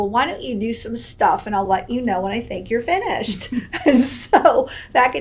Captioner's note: laughs